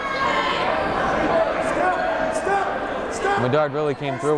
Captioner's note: yelling